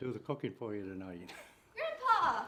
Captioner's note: laughing